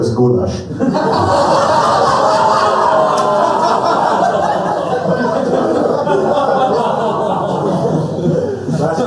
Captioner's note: laughter